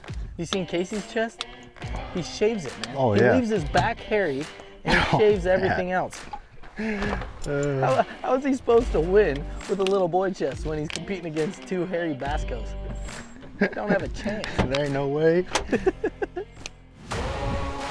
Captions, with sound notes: You seen Kaycee’s chest? He shaves it, man. Oh, yeah. He leaves his back hairy, and he shaves everything else. How is he supposed to win with a little boy chest, when he's competing against two hairy vascos? Don't have a chance! There ain’t no way. (laughing)